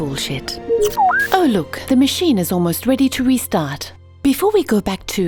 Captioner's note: blip, blop